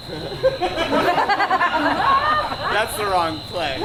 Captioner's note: audience laughs